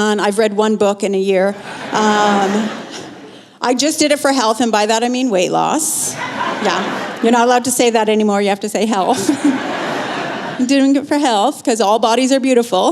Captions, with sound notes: I've read one book in a year. Um, I just did it for health, and by that I mean weight loss. Yeah. You're not allowed to say that anymore, you have to say health. (Laughter) You’re doing it for health? Because all bodies are beautiful.